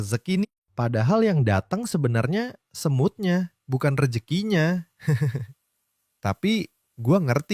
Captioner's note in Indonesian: tertawa